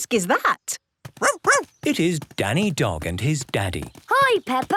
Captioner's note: barking